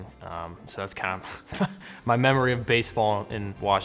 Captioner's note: chuckle